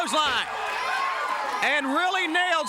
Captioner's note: crowd cheers